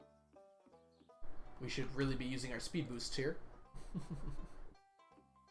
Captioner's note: chuckles